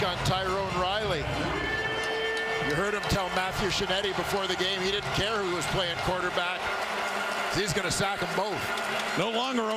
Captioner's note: crowd Noise